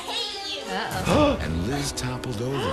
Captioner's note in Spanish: El presentador y jadean